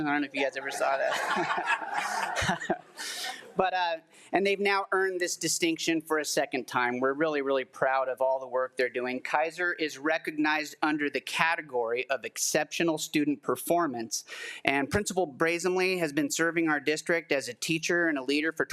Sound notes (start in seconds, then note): 0.7 all laugh